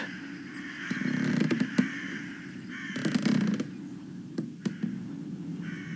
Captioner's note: creaky floorboards, ghostly abandoned ambiance fx